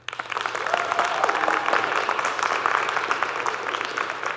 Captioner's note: audience clapping